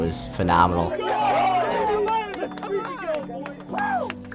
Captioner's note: friends shouting